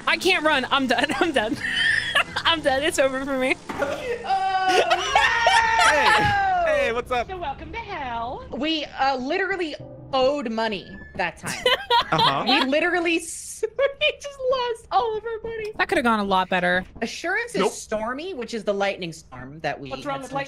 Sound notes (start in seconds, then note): 3.8 laughs; 4.2 screams; 11.4 laughs